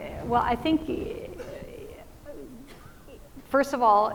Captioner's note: stammering